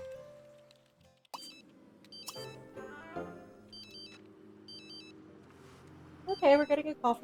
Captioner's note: phone ringing